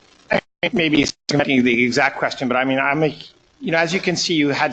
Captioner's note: recording breaking up